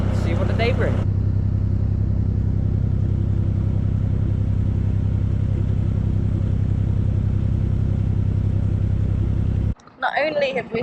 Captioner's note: narrowboat engine sounds